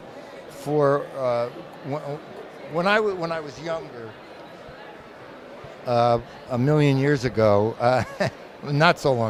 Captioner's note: laughs